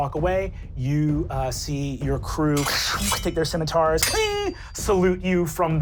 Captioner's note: metal dragging; metal click